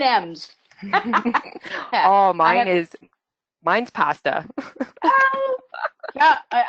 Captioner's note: laughs; laughs